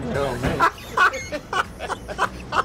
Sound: laughs

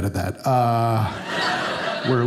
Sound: audience laughing

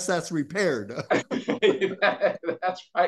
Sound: laughing

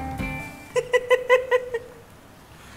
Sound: she laughs

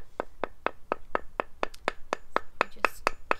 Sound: tapping sound

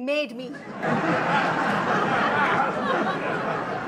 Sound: audience laughs

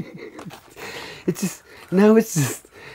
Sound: laughs

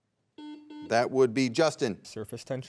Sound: buzzer beeps twice

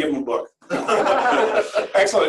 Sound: laughter

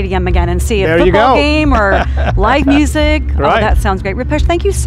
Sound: laughs

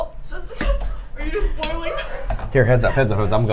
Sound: laughing

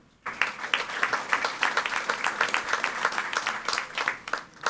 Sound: audience applauding

